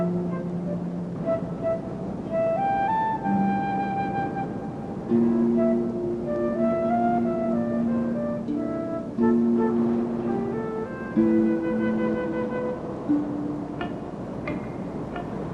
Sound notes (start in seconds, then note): 4.1 wind blowing